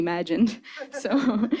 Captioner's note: chuckling